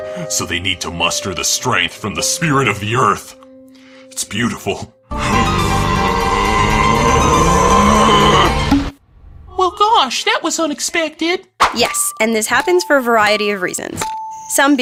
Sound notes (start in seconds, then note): 5.6 scream like a DBZ character powering up; 11.6 pop